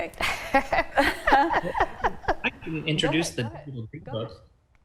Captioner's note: laughing